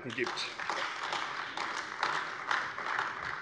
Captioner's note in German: Beifall AfD